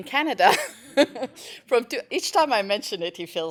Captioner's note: laugh